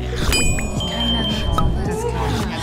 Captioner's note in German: Stimmengewirr